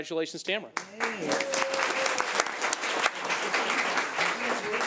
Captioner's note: crowd applauding